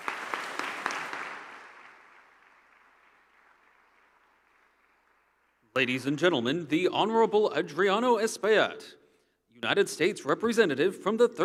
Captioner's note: applause